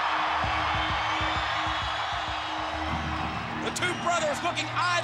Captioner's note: crowd cheers loudly